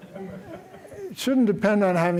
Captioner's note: laughter